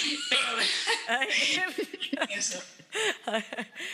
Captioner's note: laughing